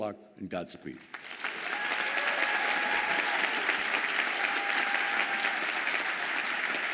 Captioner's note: audience applauding and cheering